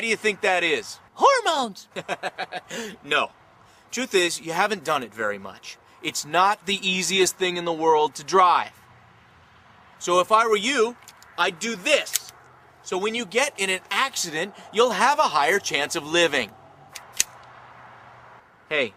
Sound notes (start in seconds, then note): 1.9 laughs; 11.0 clicks seat belt; 16.9 clicks seat belt